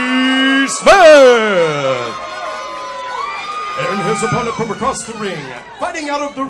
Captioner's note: applause